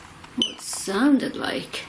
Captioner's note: beep